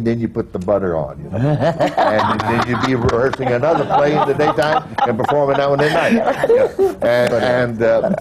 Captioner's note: laughter